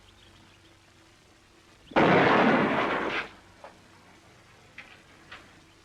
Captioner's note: gunshot